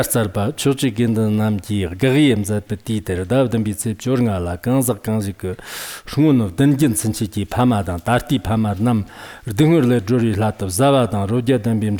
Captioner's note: giving oral transmission in Tibetan